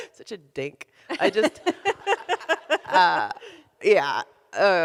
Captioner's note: laughs